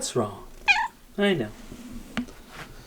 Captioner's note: cat meows